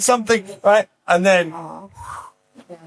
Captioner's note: breath whooshing